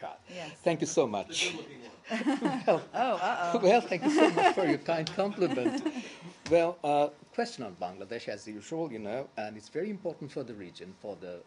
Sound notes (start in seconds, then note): 2.0 laughter; 5.7 laughter